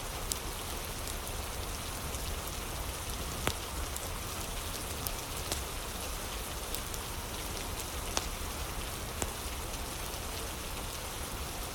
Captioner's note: fire crackling